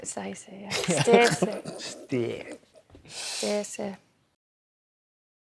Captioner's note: yorkshire accent